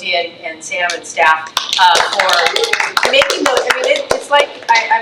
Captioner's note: trustee applauding